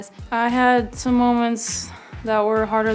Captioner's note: voiceover